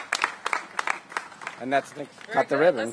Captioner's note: applause